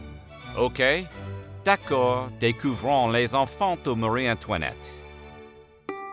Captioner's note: speaking french